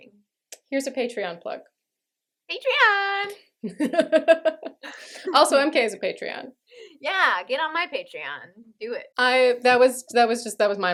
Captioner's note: laughter